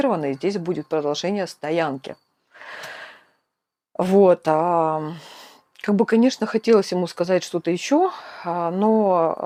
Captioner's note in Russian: вздыхает